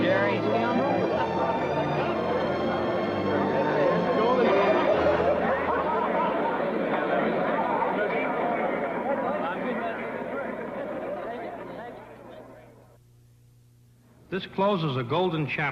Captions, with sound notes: Great job, Gary. [ chatter ]